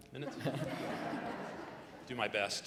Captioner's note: audience laughs